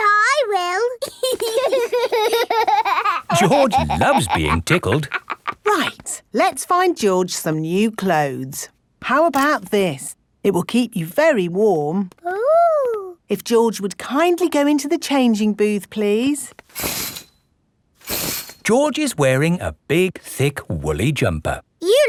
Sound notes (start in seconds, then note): 1.0 laughing